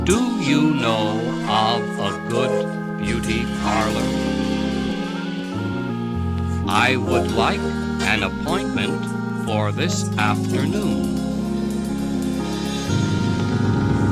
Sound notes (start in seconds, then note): none